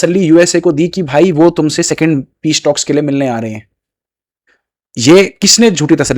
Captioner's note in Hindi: नाक से की जाने वाली आवाज़